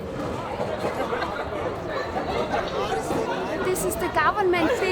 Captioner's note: indistinct chatter